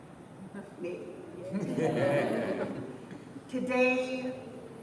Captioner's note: laughter